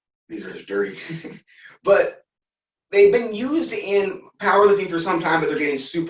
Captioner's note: laughter